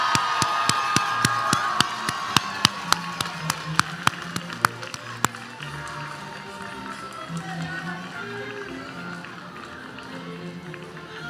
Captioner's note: applause